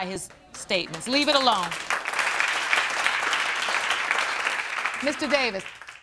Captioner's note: applause